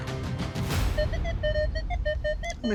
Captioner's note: detector beeping